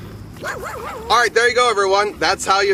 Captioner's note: dog barking